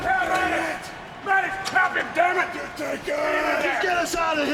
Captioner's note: person yelling